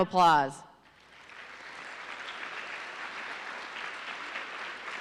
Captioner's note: audience applauding